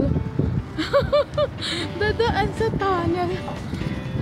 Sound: laughing

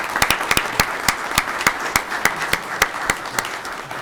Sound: audience clapping

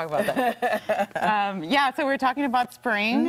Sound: laughter

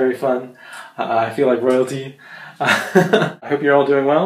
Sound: chuckles

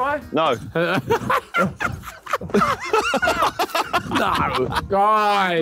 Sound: all laughing

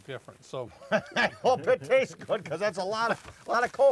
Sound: chuckles

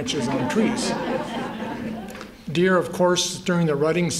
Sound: laughter

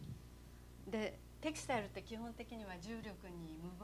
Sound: non-english speech

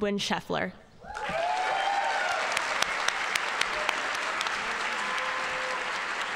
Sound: audience cheering and applauding

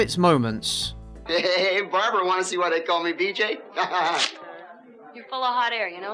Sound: laughs

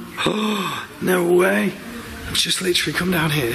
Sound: children's music; gasps

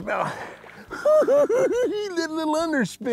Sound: giggling

